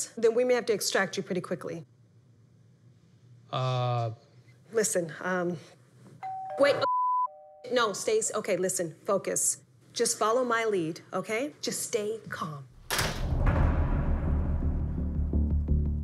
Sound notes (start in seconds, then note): 6.2 doorbell; 12.8 door closing